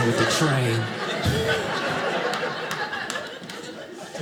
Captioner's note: audience laughing